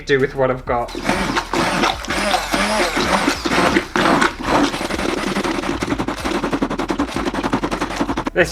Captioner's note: blending Noises